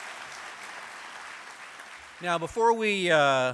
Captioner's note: applause